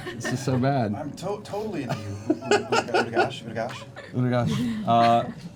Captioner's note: stammering